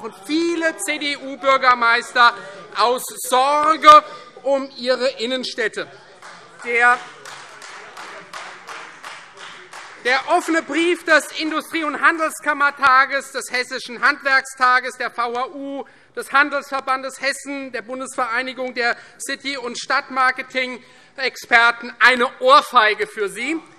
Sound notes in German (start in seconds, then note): 6.1 Beifall Freie Demokraten